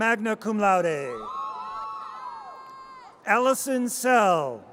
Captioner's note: audience cheers